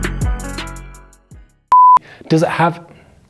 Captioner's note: beeping